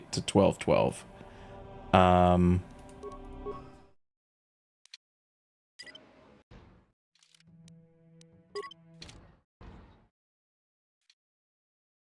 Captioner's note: no audio